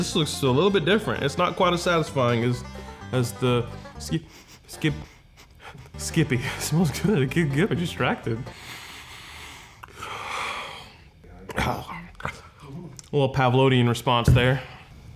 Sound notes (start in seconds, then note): 3.6 sniffing; 8.4 sniffing; 12.6 gasping